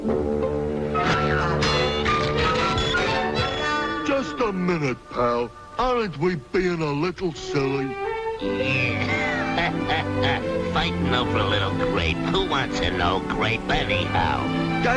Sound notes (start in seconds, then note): 1.8 blows thudding; 8.5 chuckles